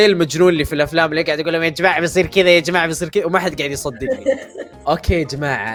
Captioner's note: mocking tone